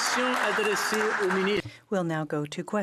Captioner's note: speaking French